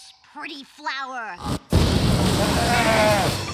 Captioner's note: flower buzzing